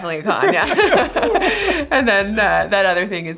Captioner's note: laughs